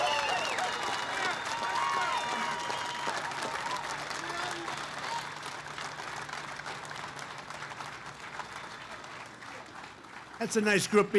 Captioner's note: applause